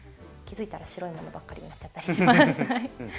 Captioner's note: laughs